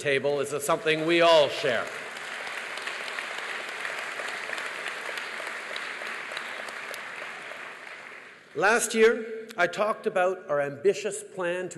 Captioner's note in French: Applaudissements